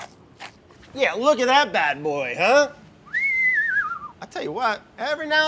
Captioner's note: whistles